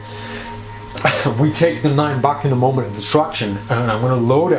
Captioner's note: laughs